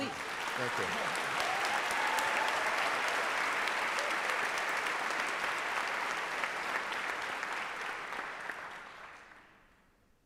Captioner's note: applause